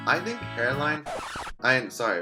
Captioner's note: record scratch